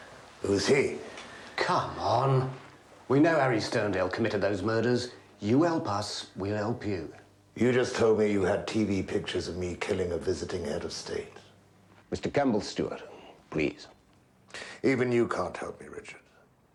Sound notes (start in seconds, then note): none